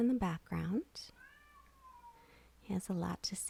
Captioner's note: cat meows